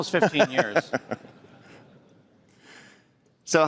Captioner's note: laughter